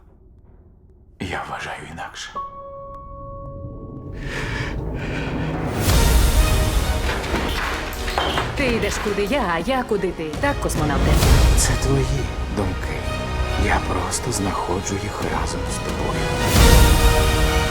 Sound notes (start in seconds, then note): 4.2 shaky breath; 5.9 dramatic music playing